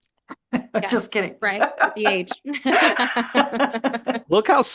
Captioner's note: hahaha